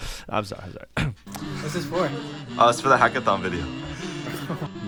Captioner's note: clears throat